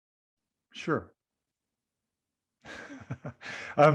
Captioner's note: laughing